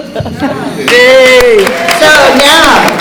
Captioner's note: laughter